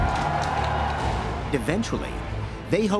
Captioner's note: crowd cheering